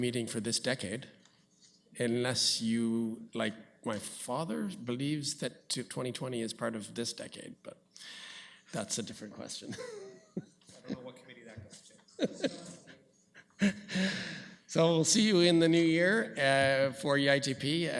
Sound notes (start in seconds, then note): 9.7 laughs; 11.1 comments off mic